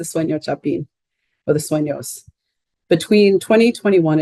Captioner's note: speaking in Spanish